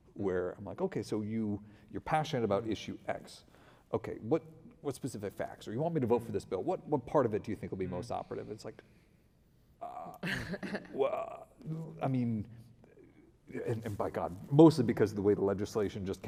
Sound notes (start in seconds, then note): 10.4 stutters